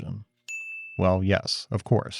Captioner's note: bell dings